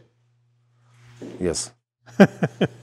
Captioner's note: laughing